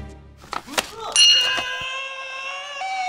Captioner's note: bell dings; yells